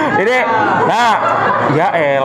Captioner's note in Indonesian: Laugh